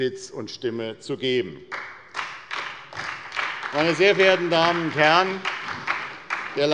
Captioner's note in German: Beifall bei der SPD